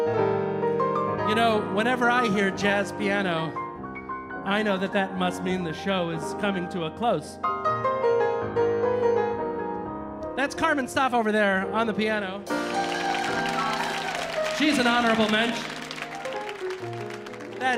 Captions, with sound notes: You know, whenever I hear jazz piano, I know that that must mean the show is coming to a close. That's Carmen Staaf over there on the piano. (audience applauding) (audience cheering) She's an Honorable Mentshn.